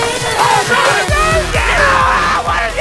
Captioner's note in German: schreie